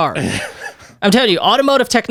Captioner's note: laughs